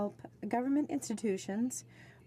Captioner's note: speaking French